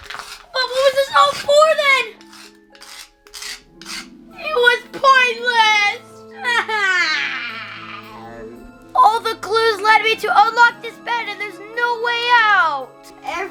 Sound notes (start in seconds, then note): 6.4 whining